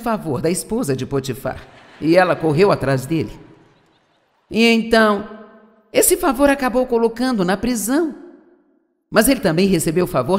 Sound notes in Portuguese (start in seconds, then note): 3.3 audiência ri